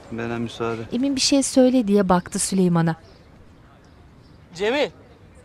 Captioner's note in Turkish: Kuş sesleri